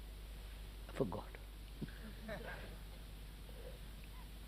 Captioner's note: laughter